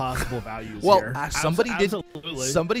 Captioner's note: laughs